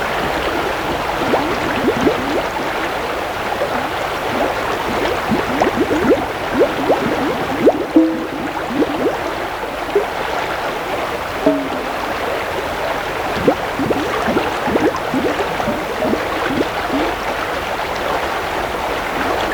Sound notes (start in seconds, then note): 1.0 running water continues; 5.0 bubbling, popping; 5.0 running water continues